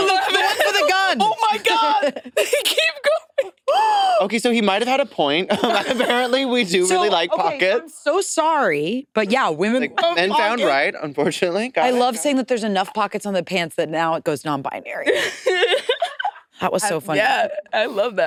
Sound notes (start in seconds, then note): 15.1 participants laughing